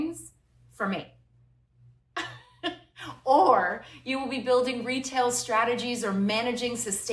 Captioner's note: laughter